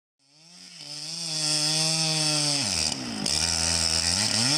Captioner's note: chainsaw revving